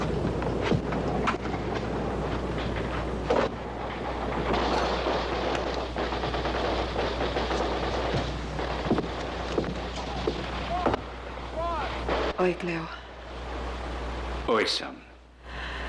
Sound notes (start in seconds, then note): 1.5 man Chattering On TV; 4.5 gunshots On TV